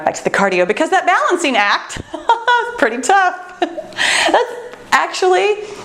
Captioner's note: laughs